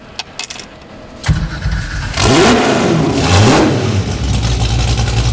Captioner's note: engine revving